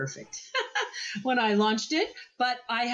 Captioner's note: laughs